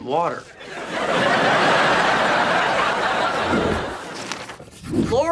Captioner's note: audience laughing